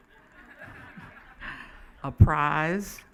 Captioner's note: laughing